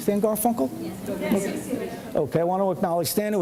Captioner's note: crowd murmurs